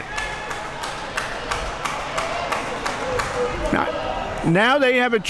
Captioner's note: crowd applauding